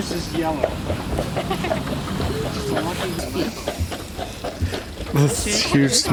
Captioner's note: woman laughs